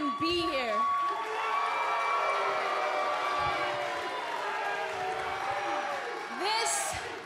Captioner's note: cheers and applause